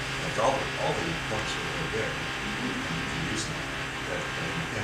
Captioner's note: speaking from off mic